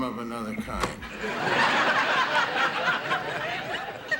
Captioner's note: audience laughing